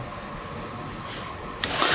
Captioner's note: hiss noise